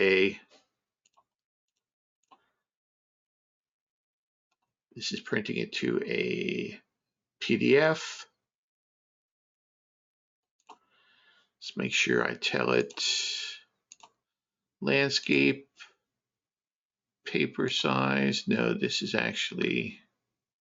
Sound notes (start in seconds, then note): 8.9 mouse clicking